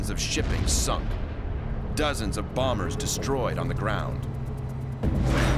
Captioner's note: explosions